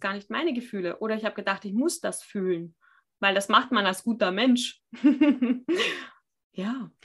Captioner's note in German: lacht